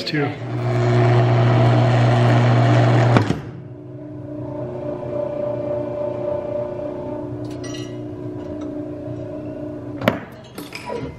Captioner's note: mechanical buzzing